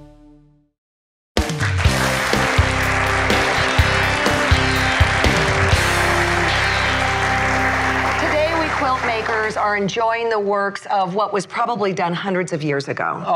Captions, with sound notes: (upbeat music) (applause) - Today we quilt makers are enjoying the works of what was probably done hundreds of years ago.